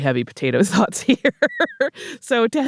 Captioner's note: laughter